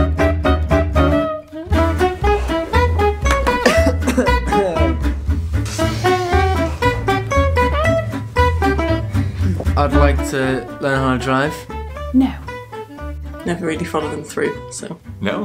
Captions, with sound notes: (playful jazz music) (coughing) - I'd like to learn how to drive. - No. - Never really followed them through, so...